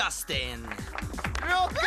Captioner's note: cheering